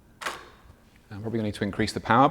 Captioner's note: shutter clicks